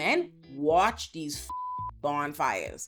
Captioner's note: beep